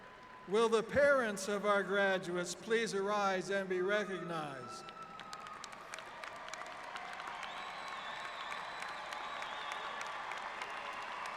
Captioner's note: applause